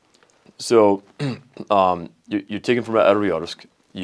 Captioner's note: clears throat